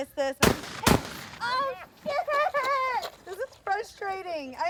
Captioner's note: gunshots firing